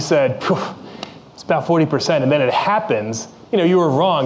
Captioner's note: sighs